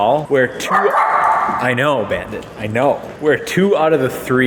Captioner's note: off-camera barking